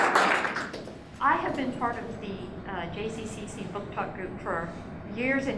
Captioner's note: applause